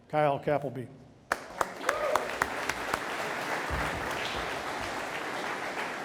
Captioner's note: audience applauding